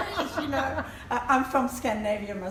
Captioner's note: laughter